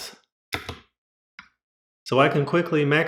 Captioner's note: The sweet sound of MX Cherry Blues being pressed